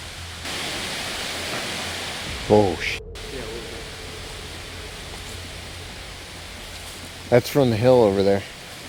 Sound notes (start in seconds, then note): 0.4 wind gusting; 3.3 speaking faintly